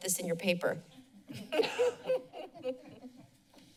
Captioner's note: laughing